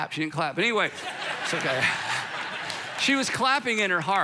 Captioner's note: audience laughing